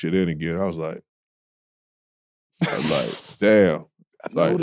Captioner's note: both laughing